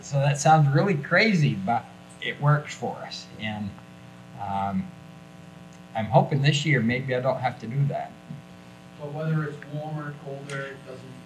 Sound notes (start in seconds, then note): none